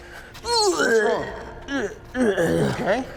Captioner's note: man hurling